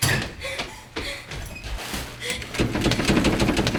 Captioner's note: heavy Breathing